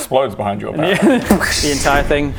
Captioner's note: exploding goblin sounds